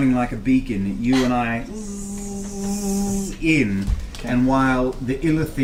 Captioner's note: buzzes